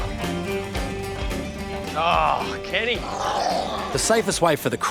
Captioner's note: croc growls